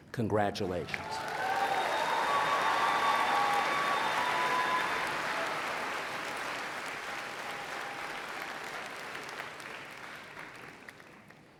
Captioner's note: applause and Cheering